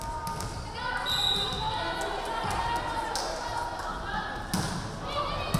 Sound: referee whistling

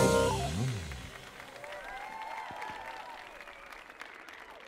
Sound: audience applauding

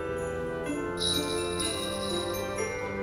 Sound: jingling

